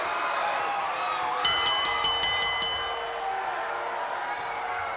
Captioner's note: bell dinging